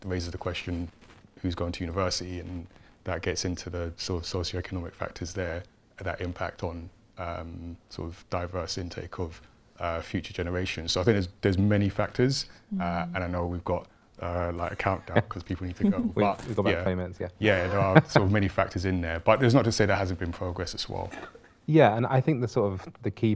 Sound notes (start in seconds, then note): 17.6 laughing